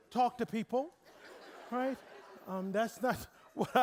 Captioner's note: audience laughing